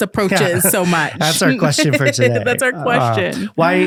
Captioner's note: laughing